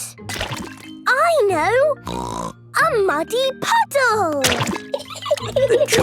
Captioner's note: laughing